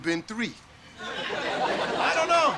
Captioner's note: audience laughter